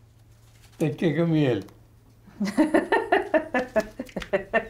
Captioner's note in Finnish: nauraa